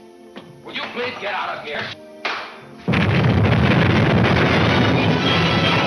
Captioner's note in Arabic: انفجارات متفجرة